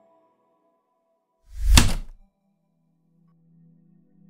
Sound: heavy typewriter keystroke

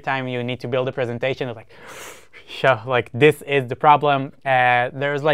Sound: inhales

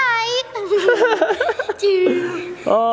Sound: chuckles

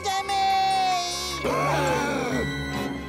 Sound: gasping

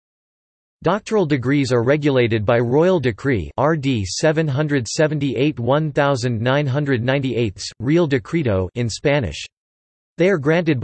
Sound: in Spanish

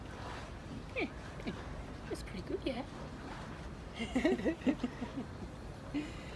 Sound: laughter

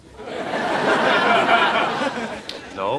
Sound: audience laughing

